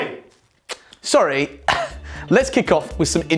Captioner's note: chuckles